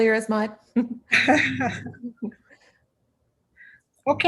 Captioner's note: laughs